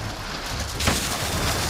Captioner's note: gunshot